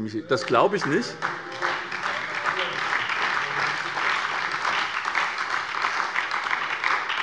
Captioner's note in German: Beifall bei der SPD